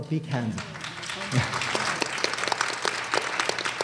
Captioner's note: applause